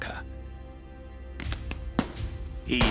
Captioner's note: gunfire banging